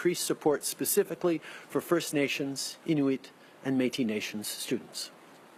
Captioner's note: speaking French